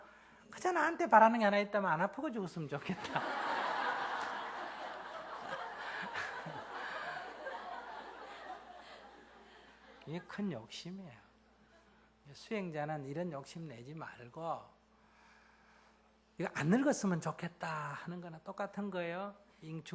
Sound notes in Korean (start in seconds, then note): 6.9 청중/스님 웃음